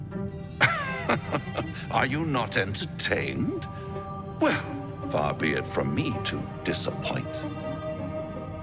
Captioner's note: laughing